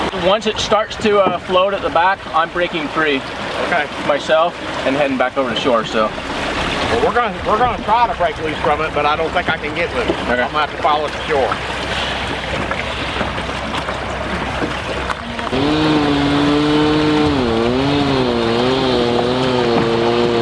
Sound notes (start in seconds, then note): 15.4 buzzing